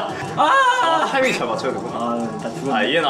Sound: gulping

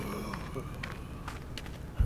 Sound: groan

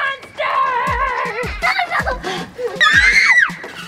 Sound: kids screaming

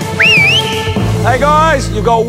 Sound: whistles

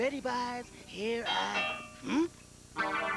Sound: doorbell rings

